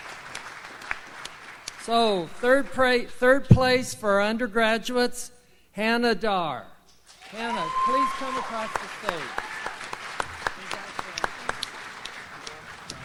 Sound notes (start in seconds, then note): 7.1 audience applauds